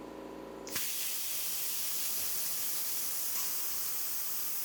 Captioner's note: sparks hissing